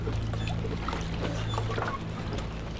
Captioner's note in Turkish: none